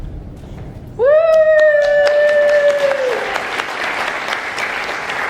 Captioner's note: audience applauding